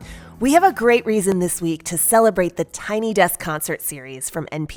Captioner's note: none